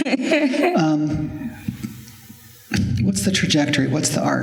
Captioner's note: laughter